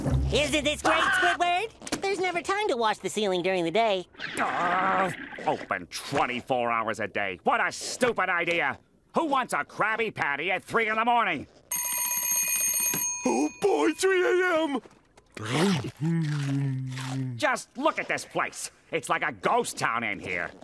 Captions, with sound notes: Isn't this great, Squidward? There's never time to wash the ceiling during the day. Open 24 hours a day. What a stupid idea! Who wants a Krabby Patty at 3:00 in the morning? [alarm ringing] Oh, boy, 3:00 a.m.! Just look at this place. It's like a ghost town in here.